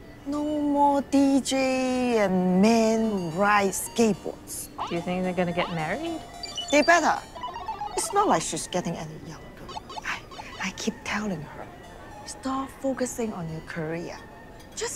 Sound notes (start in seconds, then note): 9.6 video game beeping